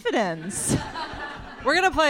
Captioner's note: audience laughter